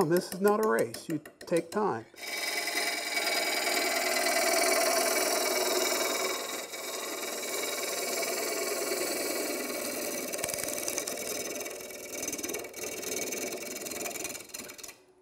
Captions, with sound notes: this is not a race, you take time. (tools buzzing)